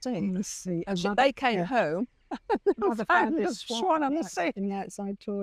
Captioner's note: laughs